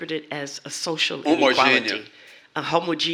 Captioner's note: speaking portuguese